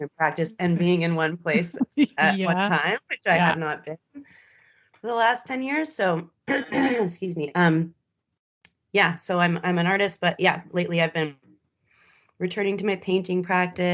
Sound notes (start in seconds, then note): 2.1 both giggling; 6.5 clears throat